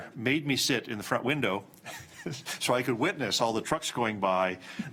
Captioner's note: chuckles